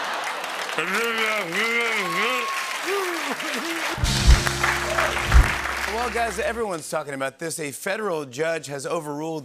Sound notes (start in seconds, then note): 0.5 muffled shouting; 4.0 cheering and applause